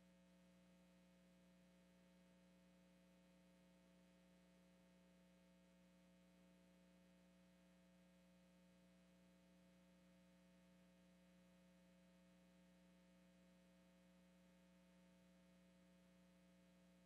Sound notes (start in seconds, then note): none